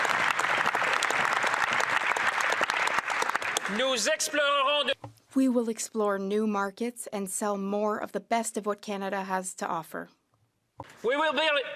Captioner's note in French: applaudissements